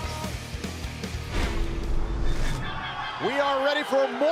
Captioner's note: crowd cheering